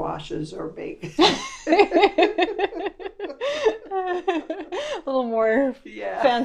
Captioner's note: laughter